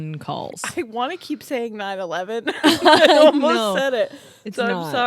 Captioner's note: laugh